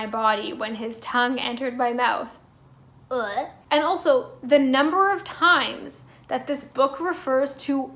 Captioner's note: gagging noise